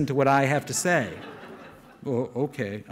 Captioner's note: audience laughing